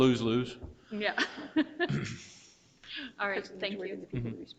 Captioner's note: chuckles